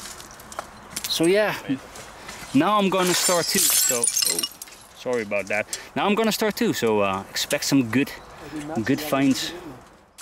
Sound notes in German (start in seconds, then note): 2.8 Glas zerbricht